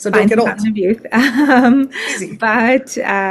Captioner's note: chuckles